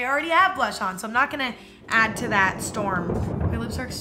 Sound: thunder rumbling

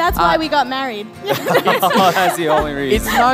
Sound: laughing

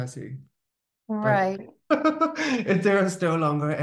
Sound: laughing

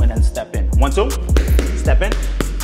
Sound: Debbie hitting punch mitts

